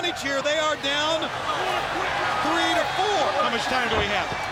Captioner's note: crowd cheering